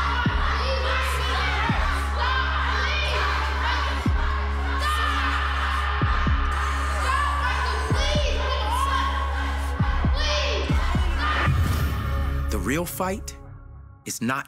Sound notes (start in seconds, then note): 0.0 kids yelling; 3.9 kids chanting